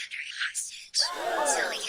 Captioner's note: crowd gasps in shock